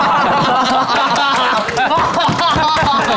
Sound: applause

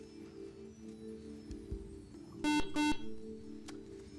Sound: buzzer

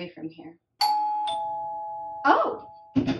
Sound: doorbell rings

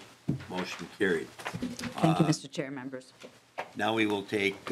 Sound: chorus of ayes

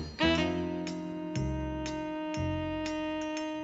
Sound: none

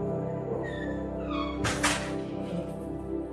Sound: door closing

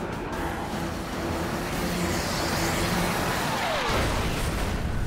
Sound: missile screams

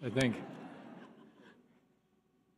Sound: audience chuckles

